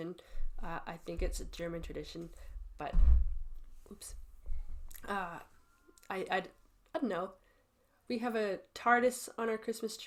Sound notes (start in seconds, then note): none